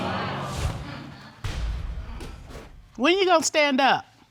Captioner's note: audience groaning